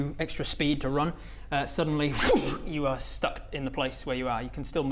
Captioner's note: zoosh